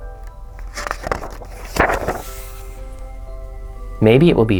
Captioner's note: page turns